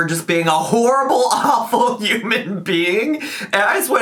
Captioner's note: laughs